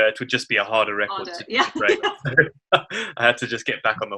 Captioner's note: both laugh